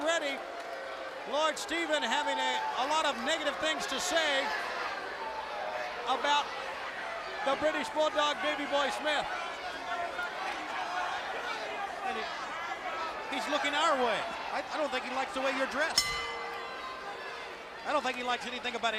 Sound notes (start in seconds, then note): 9.2 crowd chatter; 15.9 bell ringing